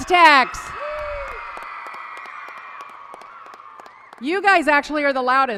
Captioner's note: applause and cheering